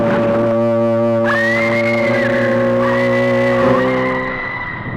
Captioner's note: screaming